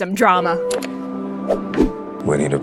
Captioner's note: call to action continues to whoosh and click